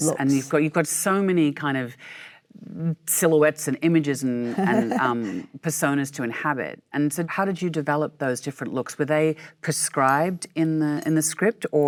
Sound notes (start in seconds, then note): 4.4 Michelle laughs